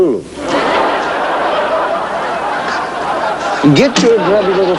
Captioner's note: laughter